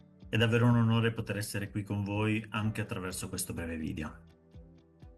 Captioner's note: speaking in Italian